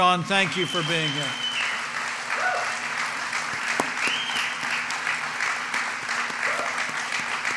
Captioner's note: applause